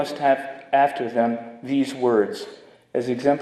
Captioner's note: none